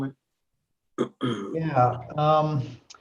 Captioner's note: clears throat